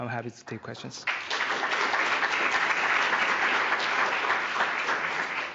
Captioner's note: applause